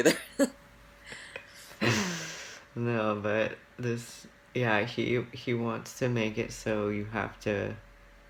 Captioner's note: laughs